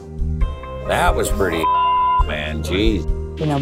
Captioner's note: beeps